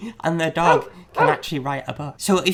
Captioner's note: dog barks